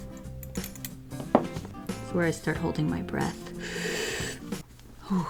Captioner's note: deep breath